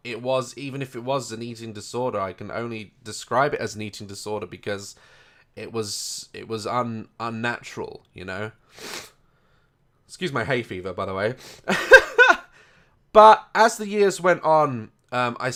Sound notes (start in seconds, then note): 11.6 hearty laugh